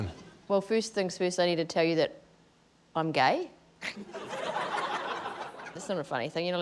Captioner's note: scattered laughter